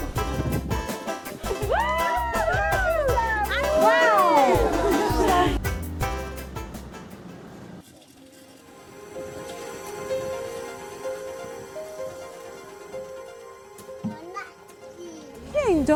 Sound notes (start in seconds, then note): 1.4 women cheering; 8.6 slow paced music